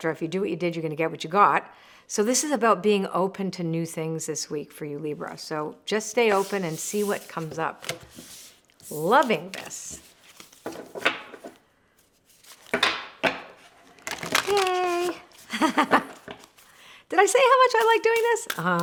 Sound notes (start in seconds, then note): 11.5 cards clacking; 15.4 laughing